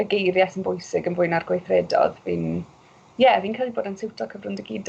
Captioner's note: none